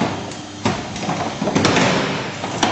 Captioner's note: loud clattering continues